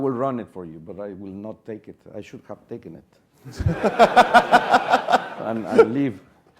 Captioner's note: laugh